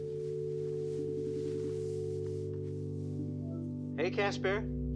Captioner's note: cellphone ringing